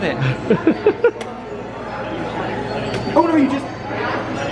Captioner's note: laughing